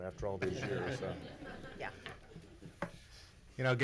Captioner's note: laughs